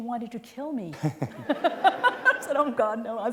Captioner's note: laughter